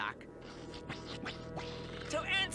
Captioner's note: tongue sounds